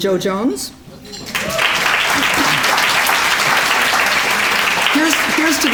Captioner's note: applause